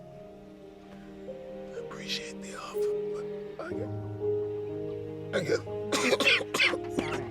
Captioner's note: coughing